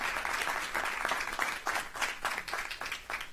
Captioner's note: applause